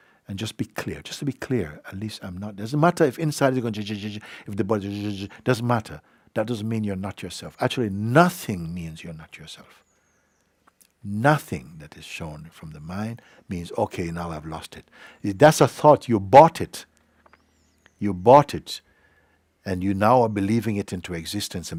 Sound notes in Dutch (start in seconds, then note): 4.9 gekwetter